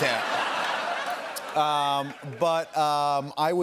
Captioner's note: laughter and applause